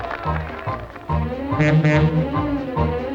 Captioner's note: monorail horn